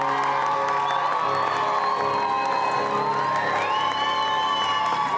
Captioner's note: cheers and applause